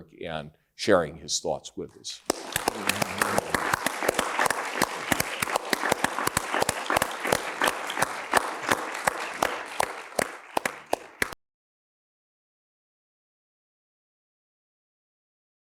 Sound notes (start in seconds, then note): 2.9 audience applauds